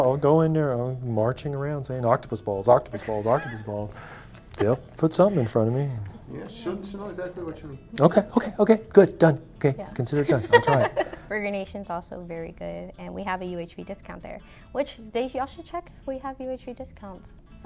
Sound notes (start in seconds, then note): 10.1 laughing